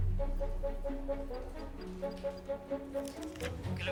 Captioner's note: upbeat dramatic music; dialing phone